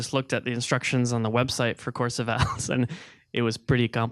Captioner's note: chuckling